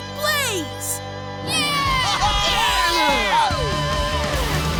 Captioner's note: cheering